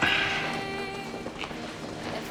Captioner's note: clears throat